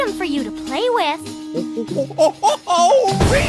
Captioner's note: monkey noises